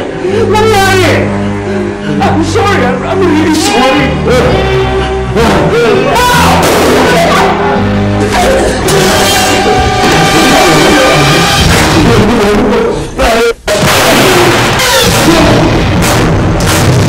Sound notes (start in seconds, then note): 6.6 gunshot; 7.2 Merce yelps; 13.6 Eric and Alfredo grunting; 13.7 gunshot